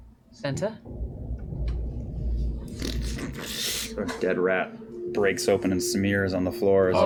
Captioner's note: sliding